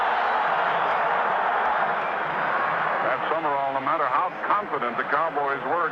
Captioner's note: crowd cheering